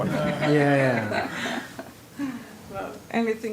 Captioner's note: laughter